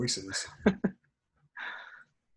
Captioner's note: laughter